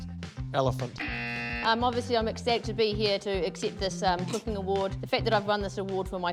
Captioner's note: buzz